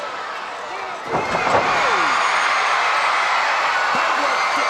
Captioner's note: crowd cheering